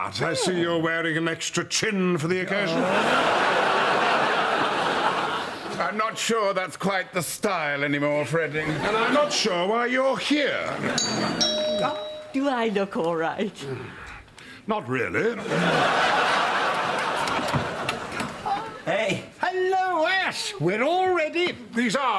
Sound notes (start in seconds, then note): 10.9 doorbell